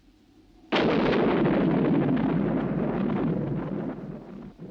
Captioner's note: thunder crashing